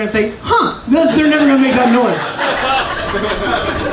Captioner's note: audience laughing